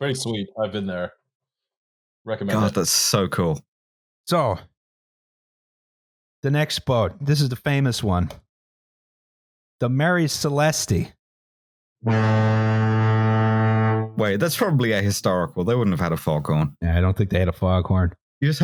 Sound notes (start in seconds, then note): 12.0 foghorn